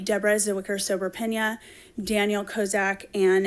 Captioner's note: foreign language